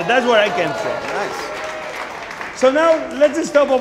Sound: audience applauding

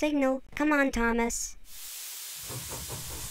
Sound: steam wheeshing

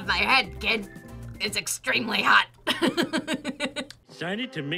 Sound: laughs

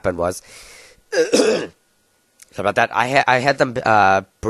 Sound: coughs

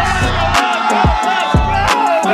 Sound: screams; upbeat music

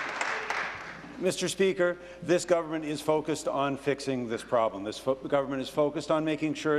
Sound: applause

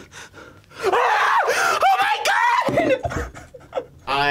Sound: screams

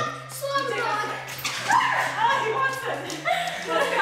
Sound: screams

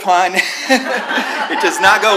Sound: laughter

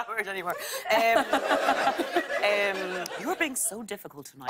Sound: laughter

